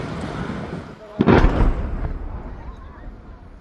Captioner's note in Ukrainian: вибух